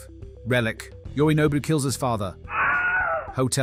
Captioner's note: Wilhelm Scream